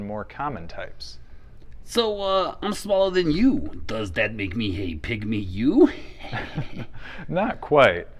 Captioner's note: laughs